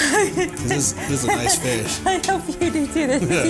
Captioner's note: laughing